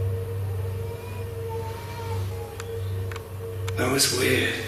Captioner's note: baby crying